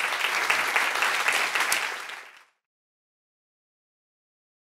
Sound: audience applauds

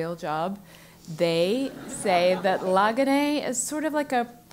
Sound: laugh

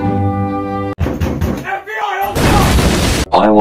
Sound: door breaks down

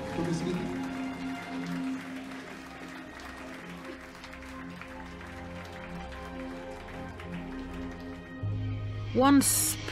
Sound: applause

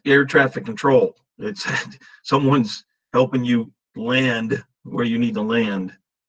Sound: chuckles

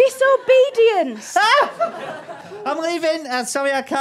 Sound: screams

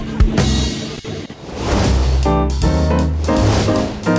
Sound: transition whooshing; upbeat music

